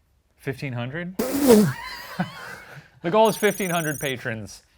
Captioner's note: laughs